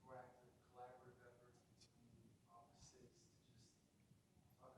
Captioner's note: murmurs